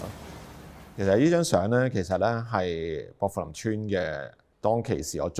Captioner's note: street ambience fades out